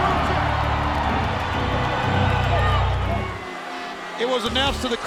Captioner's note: crowd cheers; intense music